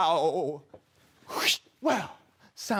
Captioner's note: swoosh